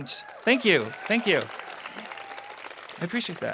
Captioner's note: audience applause